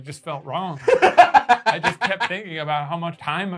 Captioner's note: laughing